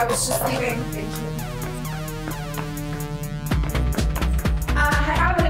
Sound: footsteps clacking

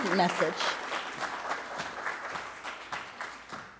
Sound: applause

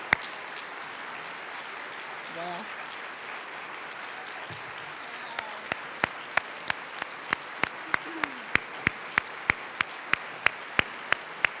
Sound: applause

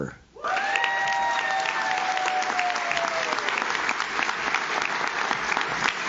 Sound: audience cheers; audience claps

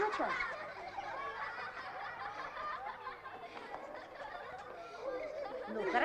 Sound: general laughter

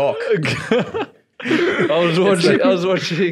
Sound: laughing

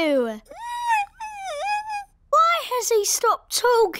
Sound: squeaks

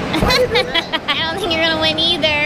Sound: laughs

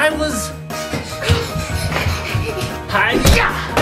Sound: panting

